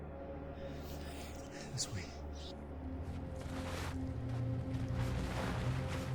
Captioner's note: footsteps crunching